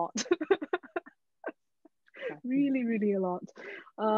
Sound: all laughing

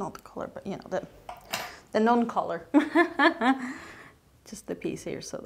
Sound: laughs

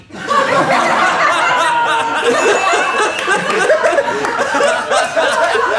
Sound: laughter

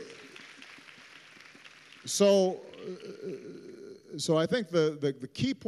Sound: applause

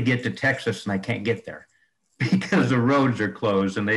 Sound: laughter

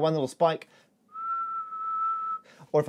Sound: whistling

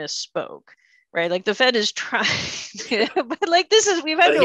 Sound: giggling

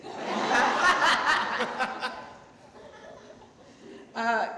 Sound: laughing loudly

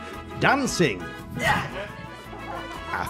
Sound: grunts

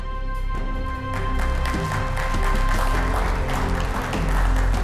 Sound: claps

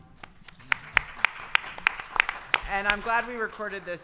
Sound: audience applause

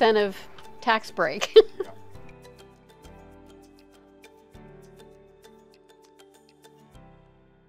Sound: gentle music; laughs genuinely

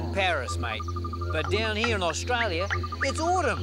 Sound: australian accent

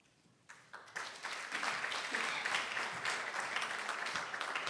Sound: audience applauding

